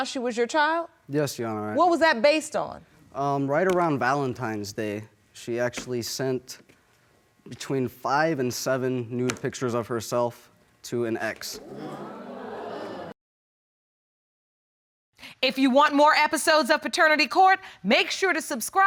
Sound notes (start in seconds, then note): 11.5 audience murmuring